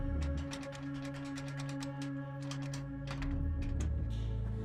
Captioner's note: door handle rattling